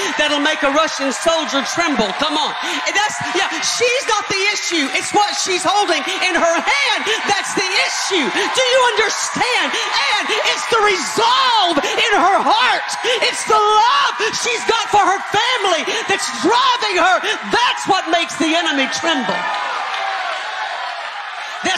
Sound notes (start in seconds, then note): 2.5 audience cheering; 20.2 audience cheering